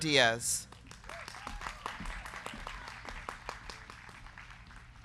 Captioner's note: crowd clapping